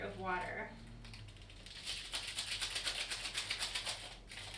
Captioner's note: crinkling